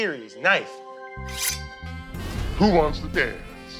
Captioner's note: playful music; knife scrapes